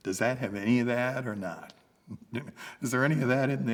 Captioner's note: laughs